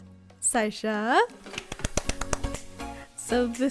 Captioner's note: clap clap clap